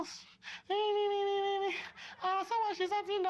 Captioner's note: mockery